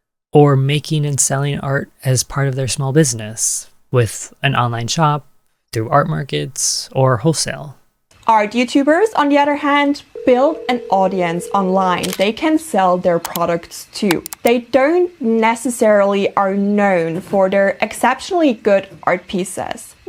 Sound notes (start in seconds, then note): 10.1 phone ringing; 12.0 camera shutter; 13.2 click